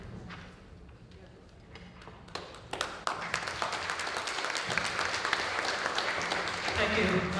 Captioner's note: applause